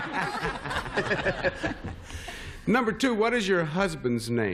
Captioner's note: laughter